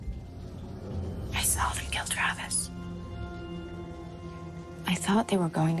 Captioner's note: whispering